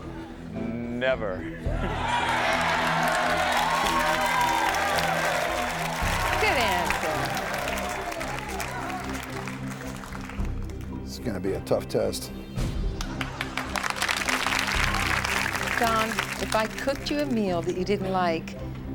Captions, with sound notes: - Never. (audience cheers and applauds) - Good answer. - This is gonna be a tough test. (audience applauds) - Don, if I cooked you a meal that you didn't like,